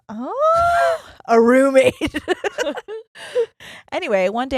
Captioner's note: giggles quickly